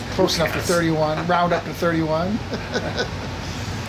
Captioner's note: laughs